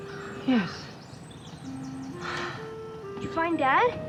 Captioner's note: sighs